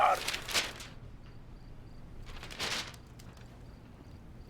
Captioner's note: paper rustling